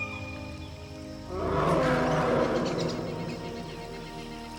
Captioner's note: dinosaur roaring